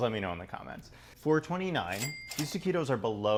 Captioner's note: register ka-ching